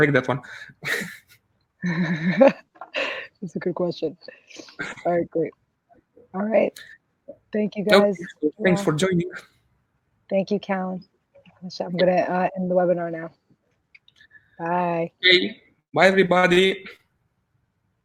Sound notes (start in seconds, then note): 4.6 laughs